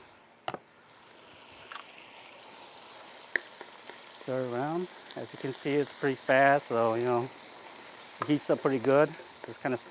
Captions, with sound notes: Throw it in. (food sizzling) Stir it around. As you can see, it's pretty fast, so, you know, heats up pretty good.